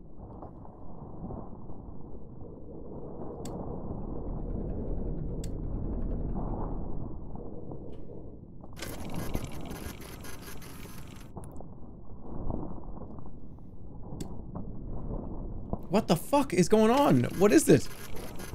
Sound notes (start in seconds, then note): 8.8 machine whirring